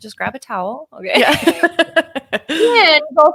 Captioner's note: both laughing